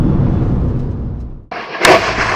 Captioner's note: engine rumbling